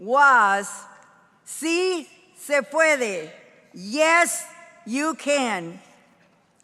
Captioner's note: speaking in foreign language